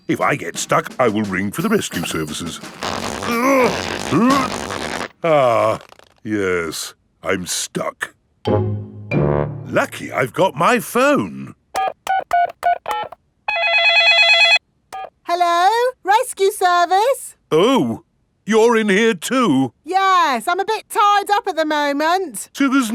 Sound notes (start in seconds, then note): 3.2 grunting; 11.7 dialing; 13.4 cell phone ringing